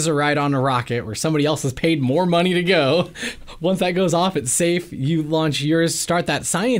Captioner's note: laughs